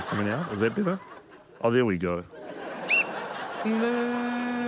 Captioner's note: whistle trills